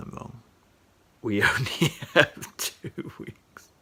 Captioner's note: laughing